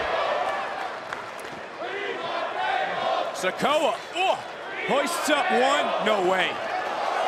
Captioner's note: crowd chants